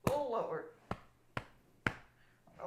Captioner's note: back slapping